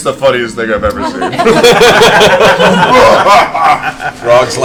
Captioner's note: all laugh